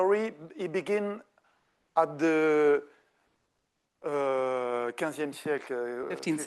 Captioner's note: speaking French